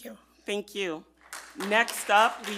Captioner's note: group applauding